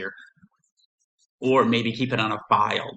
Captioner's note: silence